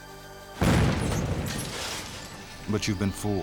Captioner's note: dynamite explodes